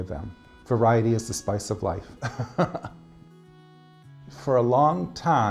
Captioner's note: chuckles